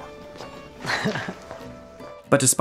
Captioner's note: laughs